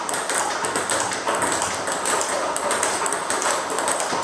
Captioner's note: ball ping pong hitting continues